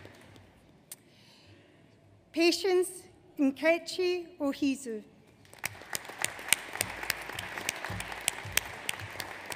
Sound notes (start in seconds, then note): 5.5 audience applauds